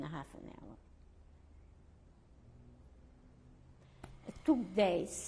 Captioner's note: pauses for 3 seconds